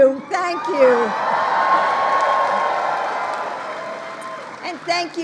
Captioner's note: applause